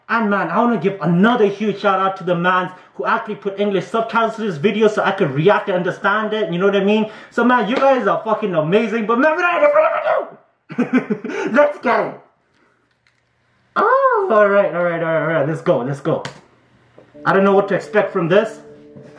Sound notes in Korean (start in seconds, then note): 10.7 이히힛